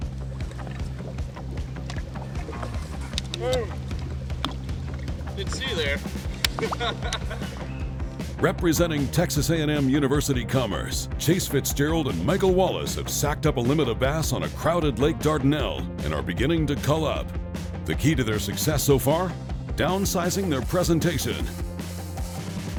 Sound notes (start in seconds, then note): 0.1 dramatic music; 7.5 laughing